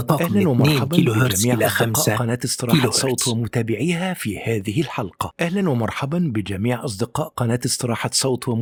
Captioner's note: arabic VO